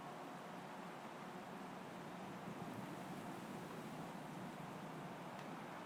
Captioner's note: a quiet wind blows through an empty city space